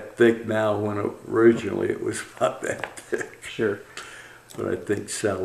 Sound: laughs

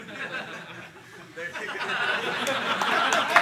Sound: laughter

